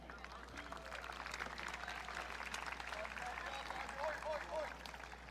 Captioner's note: audience clapping